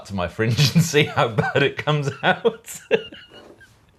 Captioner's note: laughing